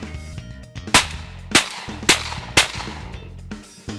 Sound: guns firing

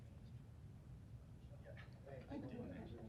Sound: chatter

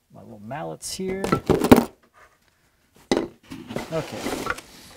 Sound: metal tools thumping

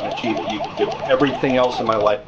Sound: game beeping

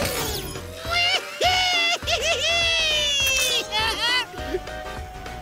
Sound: laughing

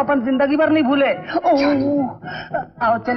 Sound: groans

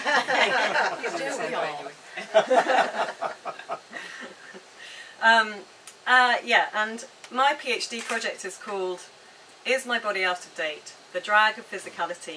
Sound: laughter

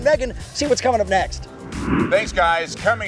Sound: air whoshing

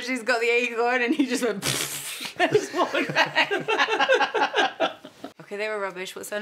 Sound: blows raspberries; laughs

